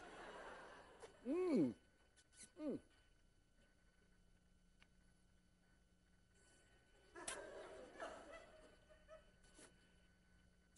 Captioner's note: class laughs